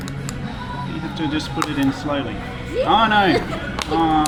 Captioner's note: she laughs